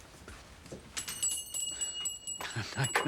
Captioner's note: bells rings